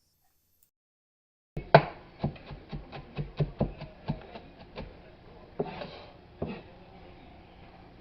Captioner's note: knife Sounds